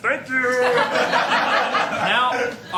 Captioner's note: laughter